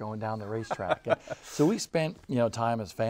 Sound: laughing

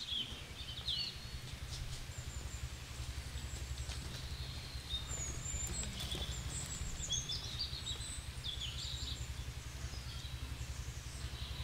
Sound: sound of nature

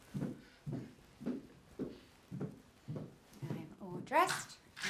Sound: heels clanking on wood

